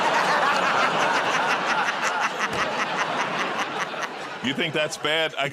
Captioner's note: laughter